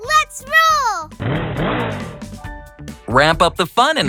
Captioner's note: engine revving